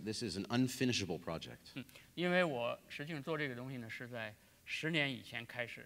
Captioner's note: speaking in Chinese; speaking in Chinese